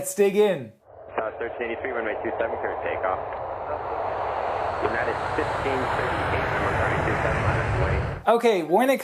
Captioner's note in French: communications de la tour de contrôle